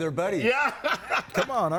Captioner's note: laughs